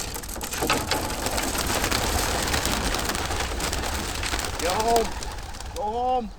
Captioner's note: wings rustling and fluttering